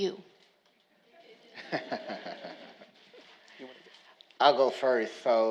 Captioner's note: all laughing